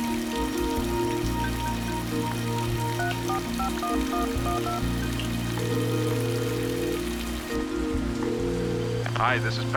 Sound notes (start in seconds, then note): 2.9 dials telephone; 5.8 ringing